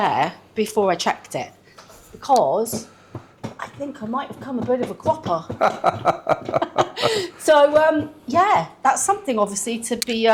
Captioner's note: laughter